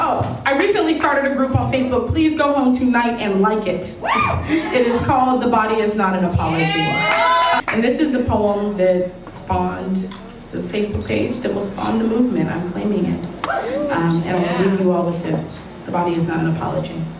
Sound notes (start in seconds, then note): 7.0 audience applause